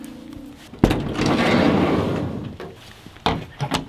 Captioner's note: distant car engine; door sliding open; lock rattling against door